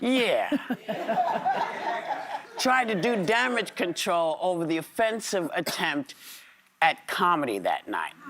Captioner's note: laughter